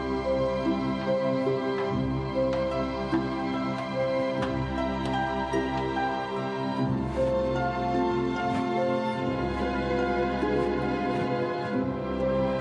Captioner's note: bells